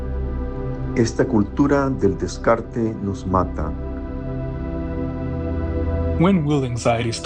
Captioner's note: immigrant speaking in foreign language